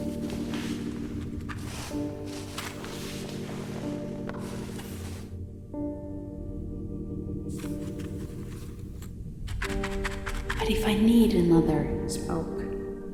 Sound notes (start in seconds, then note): 7.7 matches clattering